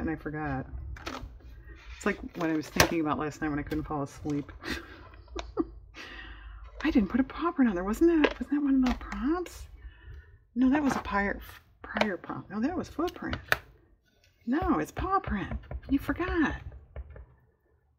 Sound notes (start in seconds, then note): 4.6 laughs